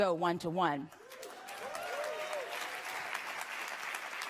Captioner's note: applause